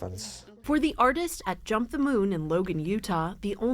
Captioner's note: voice-over